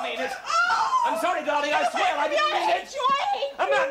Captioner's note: Amanda wails